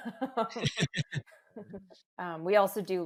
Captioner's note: laugh